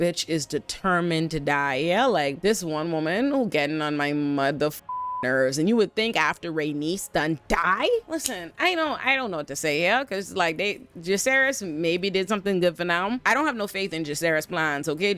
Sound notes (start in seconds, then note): 4.8 beep